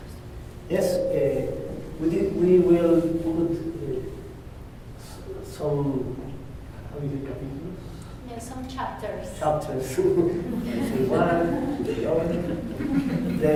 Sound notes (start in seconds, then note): 7.5 spanish